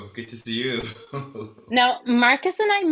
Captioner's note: giggles